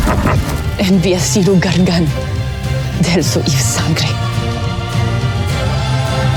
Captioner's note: cackles & groans; powerful whoosh-crackle; speaking in enchanta